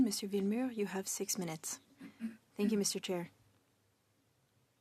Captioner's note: speaking French